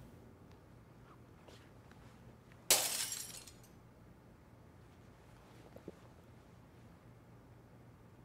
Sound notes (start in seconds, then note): 2.7 glass shattering